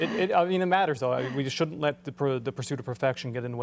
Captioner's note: laughter